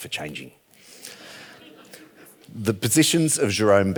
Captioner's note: audience laughing